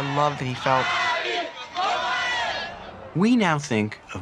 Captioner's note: crowd chants in Lingala